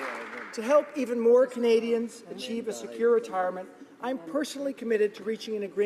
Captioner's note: applause